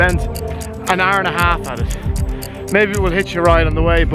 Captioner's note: breathing heavily